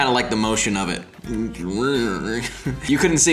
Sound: wavy noises

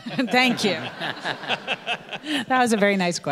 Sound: audience laughing

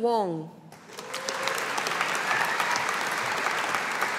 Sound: audience applauding

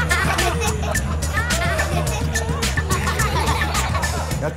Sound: beatboxing

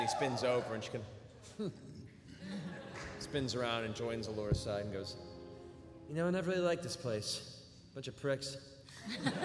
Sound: harrumphs

